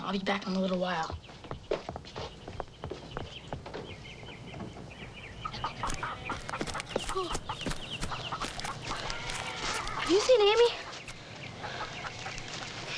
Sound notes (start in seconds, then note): 5.7 Tommy panting; 5.7 chickens clucking